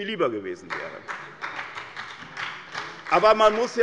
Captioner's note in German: Beifall bei der SPD